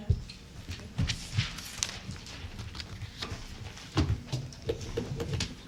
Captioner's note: chairs shuffling, groaning